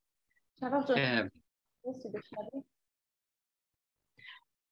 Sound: speaks in Dari

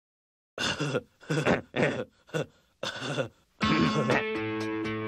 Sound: sniggering; relaxed electric guitar music

